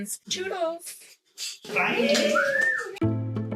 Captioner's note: whistles